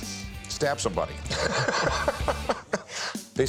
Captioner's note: laughs